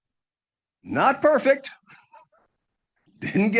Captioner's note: chuckles